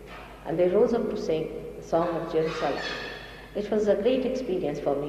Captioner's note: mother quotes in another language